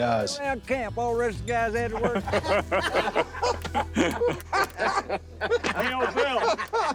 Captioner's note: men chattering, laughing